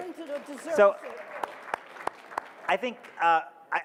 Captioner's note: audience claps